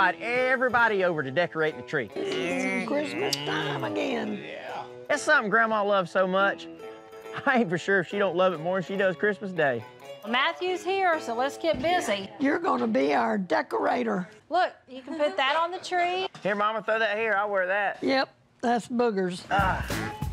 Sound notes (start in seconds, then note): 2.2 smooch